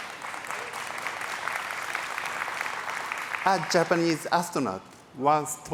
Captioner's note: applause